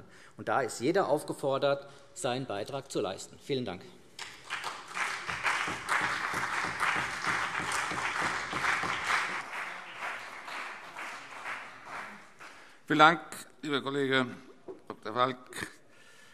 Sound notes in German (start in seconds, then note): 4.2 Beifall CDU und BÜNDNIS 90/DIE GRÜNEN